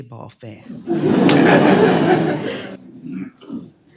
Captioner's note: laughing